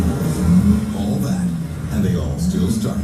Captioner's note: car engines